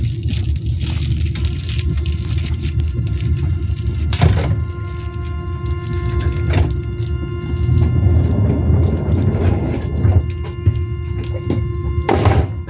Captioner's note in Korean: 출입문 닫힘